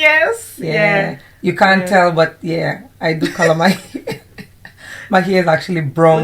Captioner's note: laughs